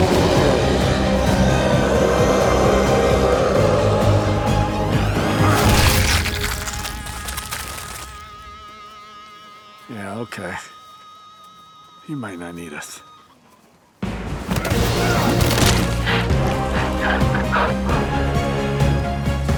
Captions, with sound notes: (Chef roars) (goo splatters) - Yeah, okay. He might not need us. (intense music)